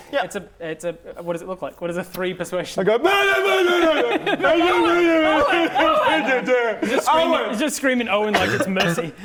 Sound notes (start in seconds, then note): 3.1 hysterical sobs